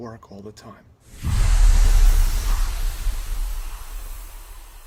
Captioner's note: electronic swooshing